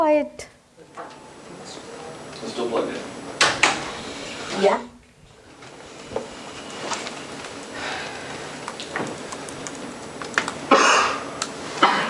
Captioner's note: indistinct conversation